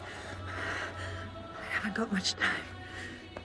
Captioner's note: gasping